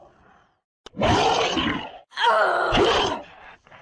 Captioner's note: shouting; monster Roar